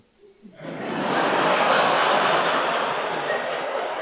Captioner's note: audience laughing